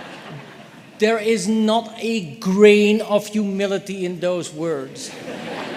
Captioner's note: laughter